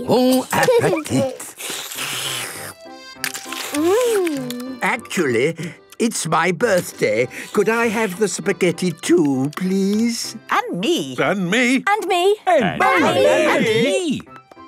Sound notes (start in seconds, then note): 1.0 slurping; 10.7 calling out in turn